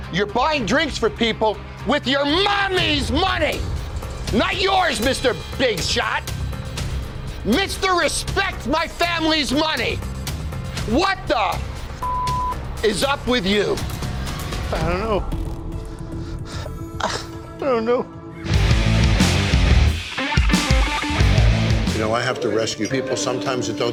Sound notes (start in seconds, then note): 12.0 beep; 18.4 upbeat music